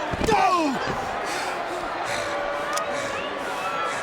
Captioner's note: Undertaker grunts